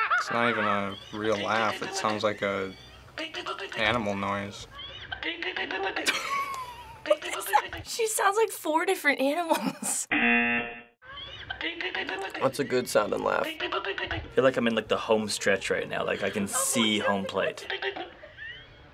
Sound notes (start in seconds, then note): 4.6 squeaking and odd noises; 4.8 stifled laughter; 10.1 buzzer; 11.1 animal-like laughter; 17.6 animal-like laughter